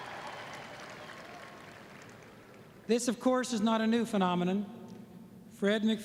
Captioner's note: applause